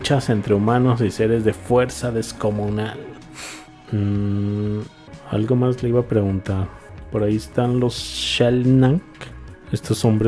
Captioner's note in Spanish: resoplido